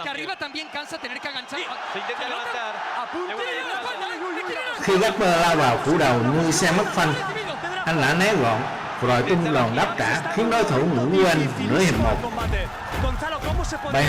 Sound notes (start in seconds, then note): 4.3 cheering